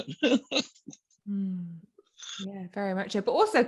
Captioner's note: laughs